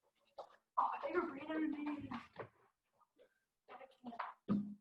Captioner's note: background talking